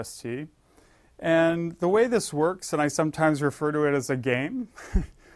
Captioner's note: laugh